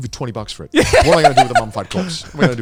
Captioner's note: laughing